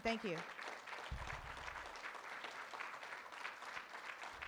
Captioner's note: room applauds